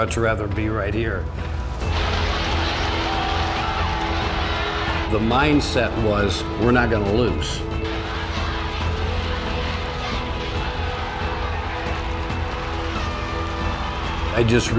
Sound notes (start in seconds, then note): 1.9 cheering; 8.4 inspiring music